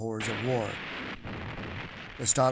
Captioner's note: bomb explodes